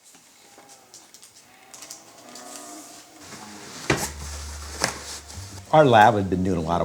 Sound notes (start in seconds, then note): 0.2 clothing rustles; 3.3 boot stomps